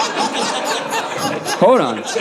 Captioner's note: audience laughing